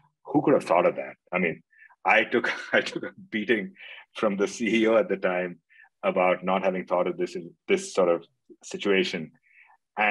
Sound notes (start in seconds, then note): 2.4 laughing